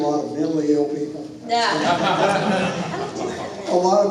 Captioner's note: hahahahah